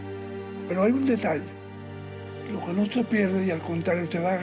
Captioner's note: speaking Spanish